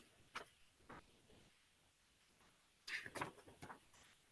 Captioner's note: pages rustling